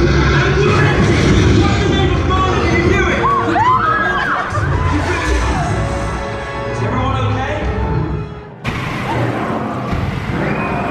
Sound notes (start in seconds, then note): 0.0 fire roaring; 3.1 screaming; 8.6 fire roaring